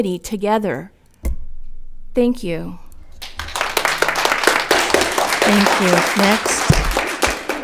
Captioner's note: audience clapping